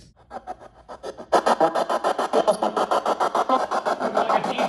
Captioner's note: static scratching